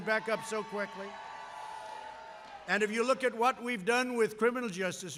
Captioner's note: applause